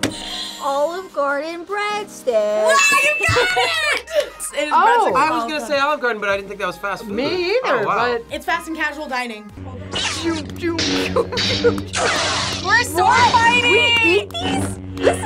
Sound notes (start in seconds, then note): 0.1 buzzer rings; 10.7 lightsabers clashing; 10.9 laughs